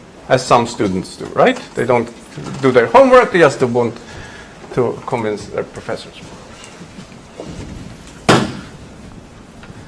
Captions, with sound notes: As some students do, right? They don't do their homework, they just want to convince their professors. (whiteboard erasing)